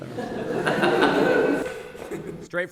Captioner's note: audience laughs